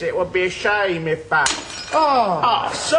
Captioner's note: glass shatters